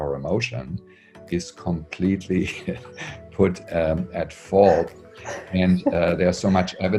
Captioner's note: chuckles